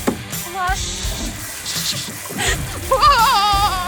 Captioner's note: flushing